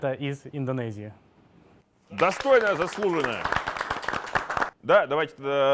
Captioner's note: applause